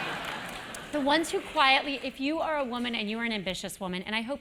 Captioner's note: laugh